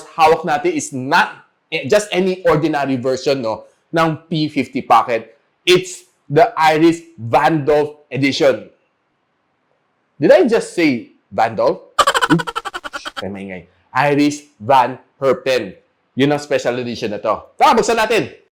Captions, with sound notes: we have not just any ordinary version of the P50 pocket, it's the Iris Van Dolph edition, did I say, Van Dolph? [Laugh] Shhh Iris Van Herpen, this is their special edition. Let's go, let's open it!